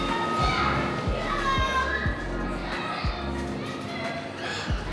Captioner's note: children chattering